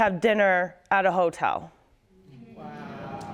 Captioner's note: audience moaning